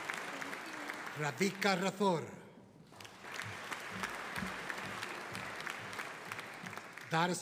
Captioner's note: audience applauding